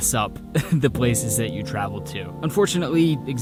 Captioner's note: chuckling